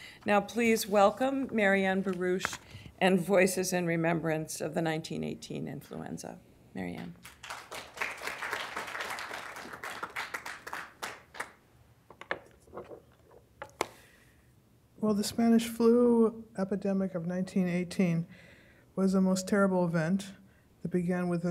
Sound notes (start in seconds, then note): 7.1 applause